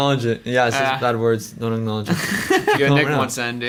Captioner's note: laughs